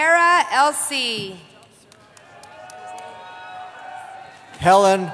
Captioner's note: cheering